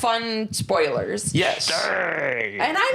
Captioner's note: growls